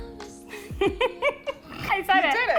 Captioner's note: laughs